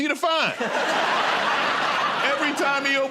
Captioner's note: laughter